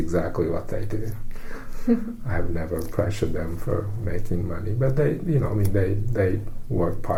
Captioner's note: laughs